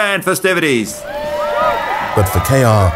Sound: crowd cheers

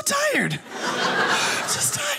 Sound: audience laughing

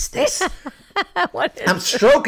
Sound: laughing

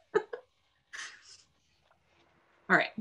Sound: laughs

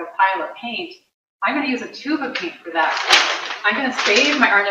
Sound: paper crackling

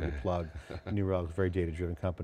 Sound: laughing

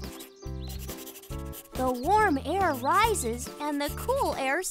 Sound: pencil scratching as he scribbles in his journal

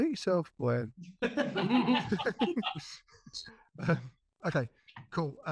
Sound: all laughing

